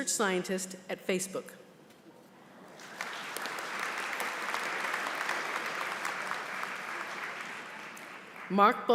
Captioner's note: applause